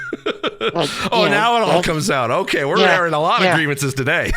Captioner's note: laughs